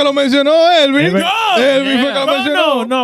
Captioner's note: speaking In Foreign Language